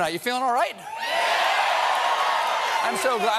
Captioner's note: cheers and applause